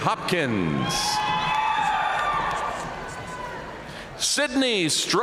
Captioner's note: audience cheering and applauding